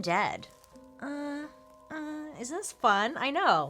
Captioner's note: moans